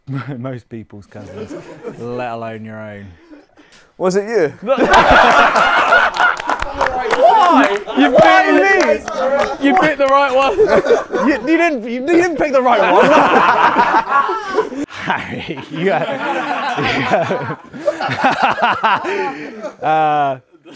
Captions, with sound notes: - Most people's cousins. Let alone your own. - Was it you? - Why? Why me? - You picked the right one. - You didn't pick the right one. (people laughing) - Harry. You are. You. No it's not.